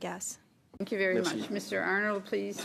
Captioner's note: speaking French